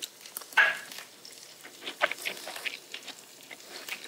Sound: chewing

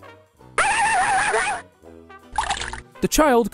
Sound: dog barking

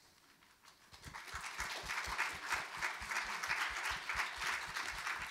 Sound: audience applauding

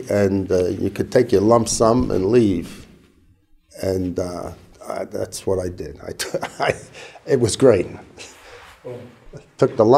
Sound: chuckle

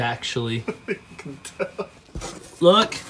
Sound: laughing

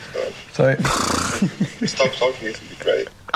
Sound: laughing

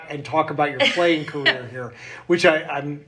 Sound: laughing

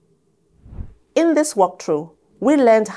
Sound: air whooshes

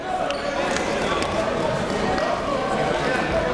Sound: chatter

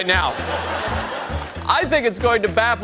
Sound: audience laughter

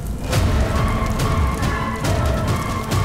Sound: fire crackling; dramatic music playing

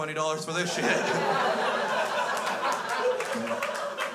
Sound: crowd laughs

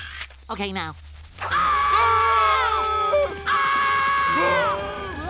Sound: screaming

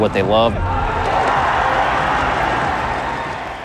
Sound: applauding

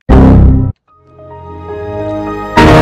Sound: Windows XP Critical Stop noise; Windows XP Start Up

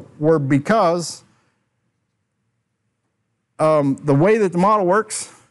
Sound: silence

